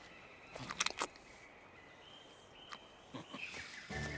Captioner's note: chomping